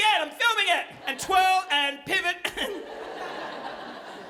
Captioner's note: chuckles; audience laughing